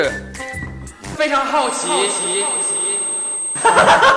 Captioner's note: hearing damage continuing